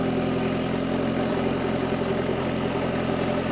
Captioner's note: engine revving